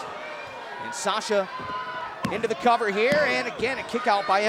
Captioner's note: hand pounding